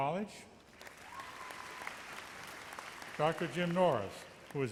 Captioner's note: audience applauds